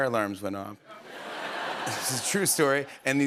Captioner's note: laughter